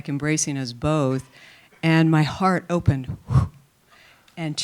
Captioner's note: mimics swishing